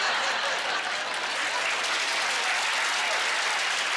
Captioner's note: laughing; cheering